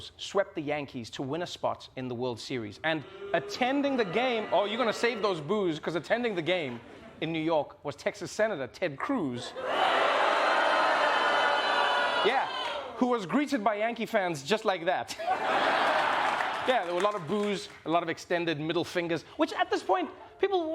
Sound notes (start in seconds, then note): 9.5 booing; 15.1 laughter